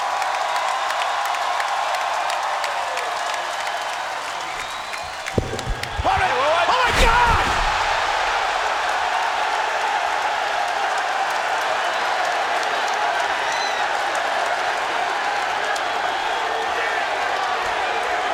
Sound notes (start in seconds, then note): 8.8 applause